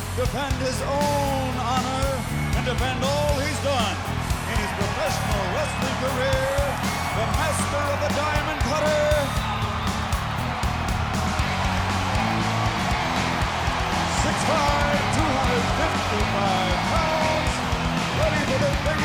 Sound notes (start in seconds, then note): 9.5 crowd cheering; 9.5 upbeat rock music